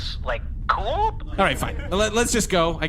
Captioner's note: audience laughter